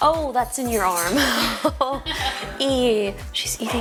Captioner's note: people laughing